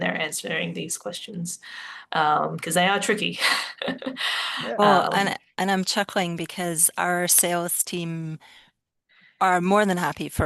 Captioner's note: laughs